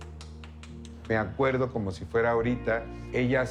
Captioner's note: rapid slapping; in Spanish